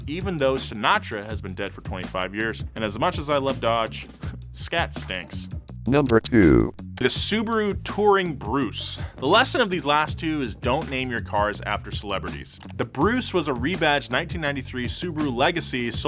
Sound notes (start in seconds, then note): 5.7 automated Voice